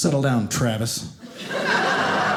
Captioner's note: audience laughing